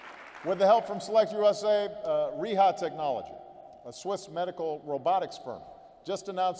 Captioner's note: applause